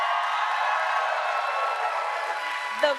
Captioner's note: applause